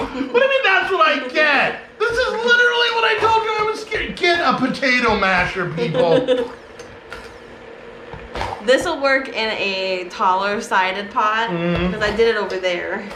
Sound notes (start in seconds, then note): 5.8 chuckling